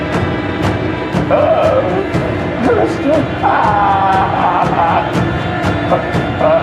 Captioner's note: drums beating; Adam groaning